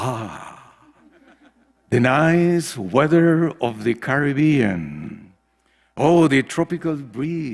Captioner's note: laugh